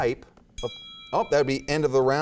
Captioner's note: dinging